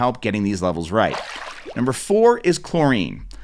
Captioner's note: water splashing